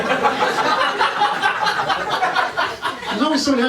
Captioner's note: laughter